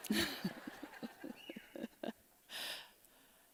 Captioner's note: laughter